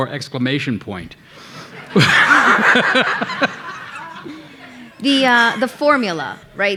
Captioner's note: audience laughing